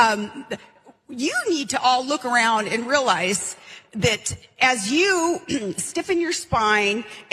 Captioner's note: cough